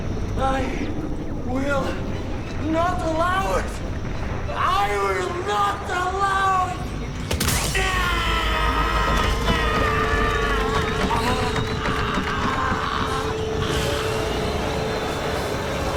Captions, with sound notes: I will not allow it! I will not allow it! (thudding) (screaming)